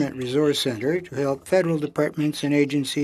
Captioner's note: speaking French